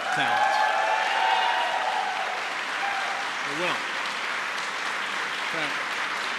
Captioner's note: applause